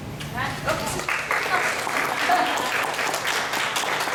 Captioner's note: applause